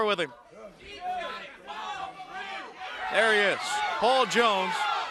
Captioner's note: crowd chatter